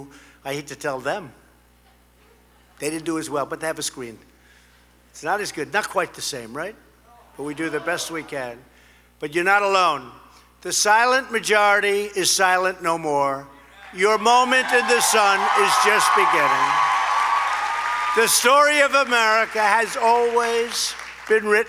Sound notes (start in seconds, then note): 16.5 applause